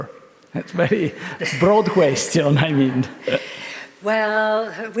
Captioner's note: chuckles